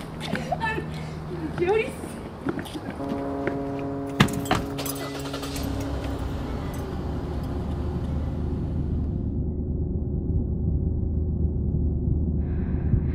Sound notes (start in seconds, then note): 7.9 car engine starts